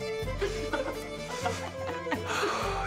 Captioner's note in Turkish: Gülüyorlar